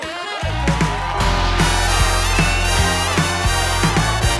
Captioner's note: upbeat jazz music; audience cheering